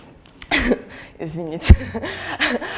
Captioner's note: laughs